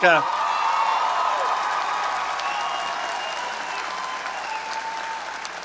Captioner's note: audience cheering and applauding